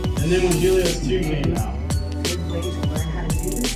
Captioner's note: none